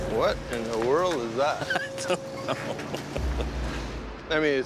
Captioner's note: laughing